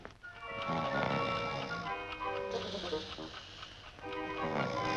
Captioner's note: Bill snoring; instrumental music